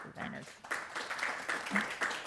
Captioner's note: applause